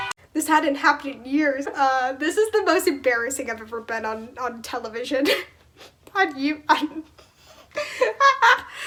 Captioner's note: laugh